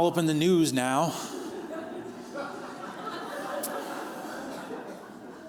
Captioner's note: laughter